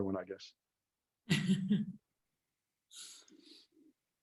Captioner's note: laughs